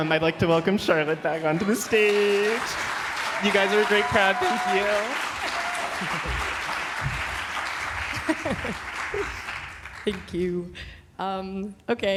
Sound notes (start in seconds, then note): 5.0 applause